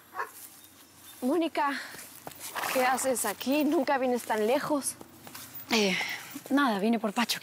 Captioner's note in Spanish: ladridos